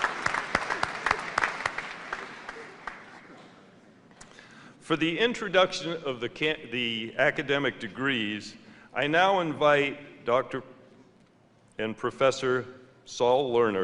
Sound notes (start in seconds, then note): 0.0 laughter; 0.0 applause